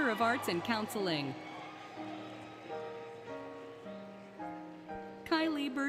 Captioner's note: applause, Cheering, Music